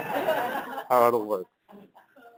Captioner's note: laughter